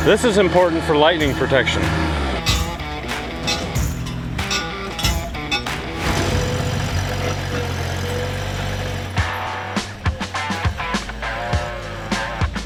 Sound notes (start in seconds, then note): 2.7 metals clanking; 2.7 upbeat music; 5.6 engine revving; 9.4 upbeat music